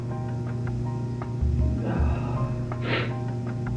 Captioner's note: sighs, sniffles